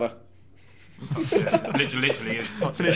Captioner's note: laughing